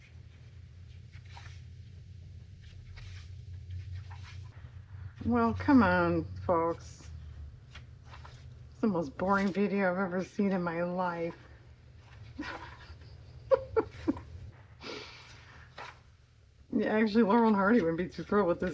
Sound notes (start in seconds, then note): 15.7 laughs